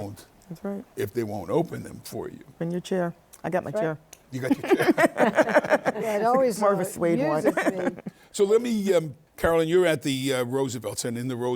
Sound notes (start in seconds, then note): 8.6 laughs